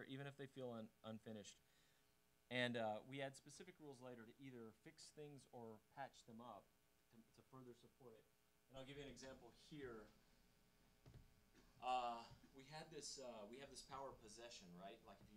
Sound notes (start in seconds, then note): none